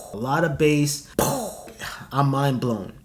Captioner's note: mimics boom